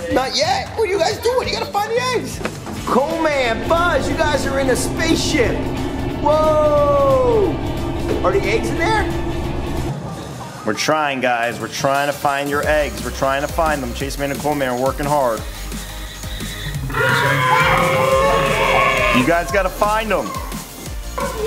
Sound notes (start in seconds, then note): 15.8 upbeat music; 16.7 dinosaur rawr